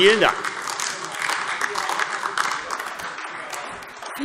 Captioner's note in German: Beifall AfD